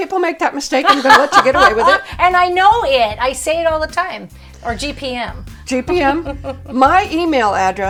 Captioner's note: laughter